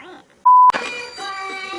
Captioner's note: sings; beep; christmas music plays; sings gibberish